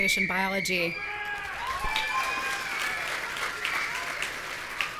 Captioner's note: audience cheering